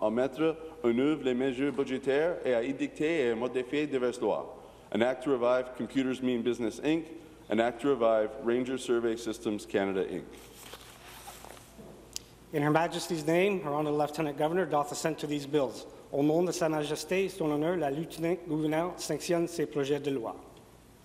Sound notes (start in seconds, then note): 0.0 speaking in french; 4.2 speaking in french